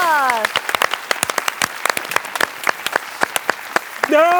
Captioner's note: celebratory applause from crew